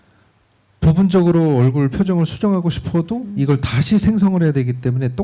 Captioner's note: speaking korean